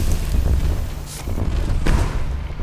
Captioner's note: ominous music; gun firing